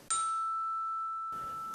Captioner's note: chime!!!!!